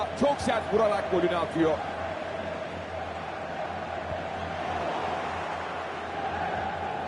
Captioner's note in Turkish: coşkulu tezahürat